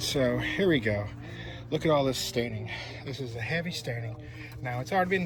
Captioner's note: sighs